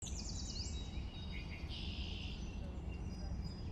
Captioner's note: birds chirping